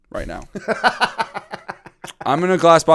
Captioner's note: laughter